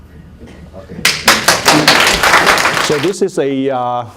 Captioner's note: applause